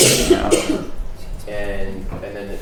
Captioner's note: coughing